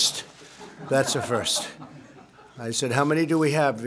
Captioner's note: laughter